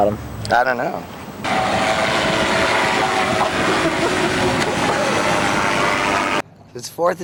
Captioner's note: engine flying sound